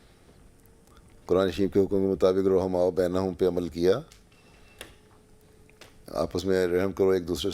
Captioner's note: Arabic